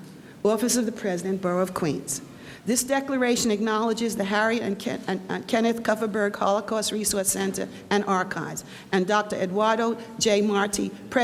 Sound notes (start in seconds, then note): none